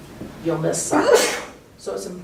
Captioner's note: achoo!